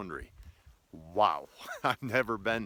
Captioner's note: laughs